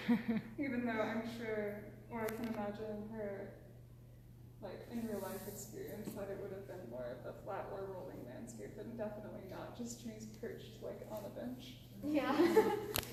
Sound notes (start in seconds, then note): 12.2 laughter